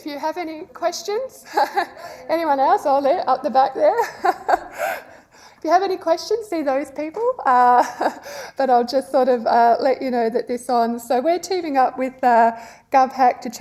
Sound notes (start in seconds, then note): 4.0 laughing